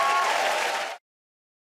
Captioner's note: cheers and applause